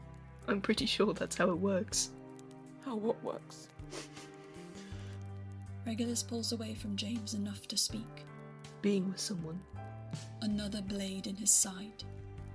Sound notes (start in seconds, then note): 3.9 Regulus sniffles